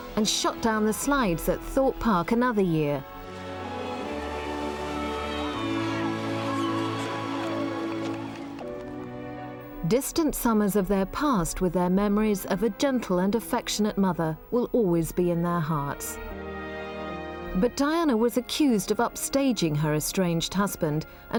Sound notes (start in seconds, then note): 3.1 gentle melancholic music; 4.8 Prince Harry shouting happily; 6.3 gentle melancholic music continues